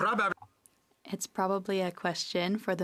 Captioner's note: speaking French